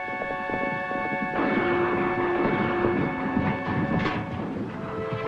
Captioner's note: distant guns fire